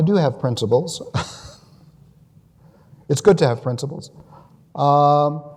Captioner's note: laughs